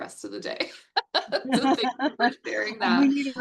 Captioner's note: chuckles